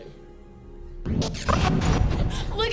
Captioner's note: rapid startling swooshes